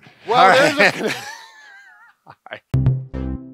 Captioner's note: laughs